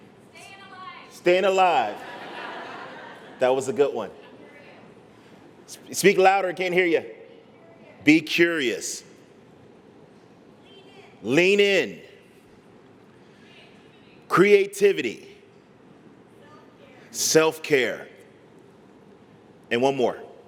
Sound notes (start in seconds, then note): 1.8 laughter